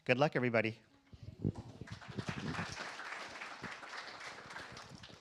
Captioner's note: applause